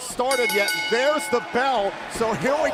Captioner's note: bell ringing